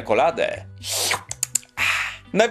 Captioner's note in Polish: siorbanie